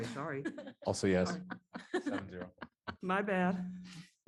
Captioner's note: laughter